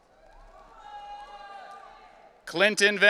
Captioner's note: audience cheering